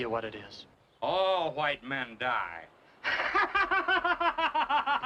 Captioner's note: laughing